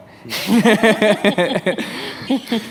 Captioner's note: laughter